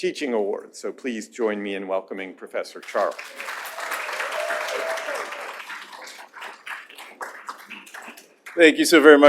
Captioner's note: applause